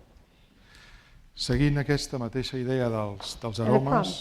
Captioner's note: speaking spanish